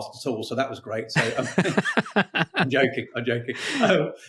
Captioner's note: both laughing